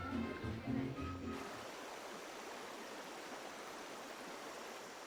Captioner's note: water splashing